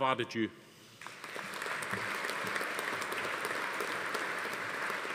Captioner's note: audience applauding